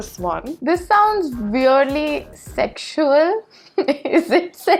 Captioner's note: laughs